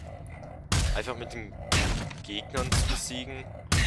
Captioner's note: still the punch noises; puuuuunch noiiiiiiseeees